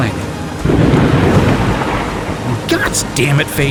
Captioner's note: heavy, close lightning